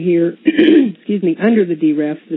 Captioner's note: clearing throat